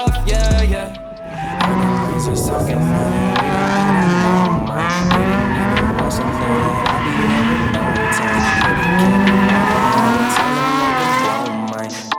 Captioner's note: car drifting noise with music playing in the background